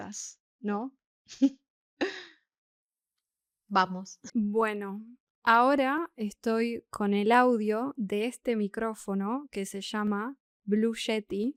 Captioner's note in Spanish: risas